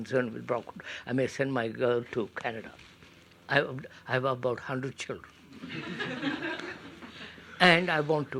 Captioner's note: laughter